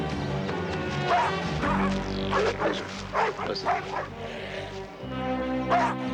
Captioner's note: barking